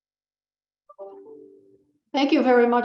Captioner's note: Windows alert sounds